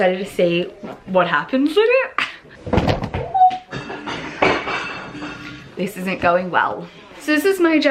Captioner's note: stack falls, noise of falling dishes in the background